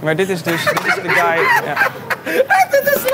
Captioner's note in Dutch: lacht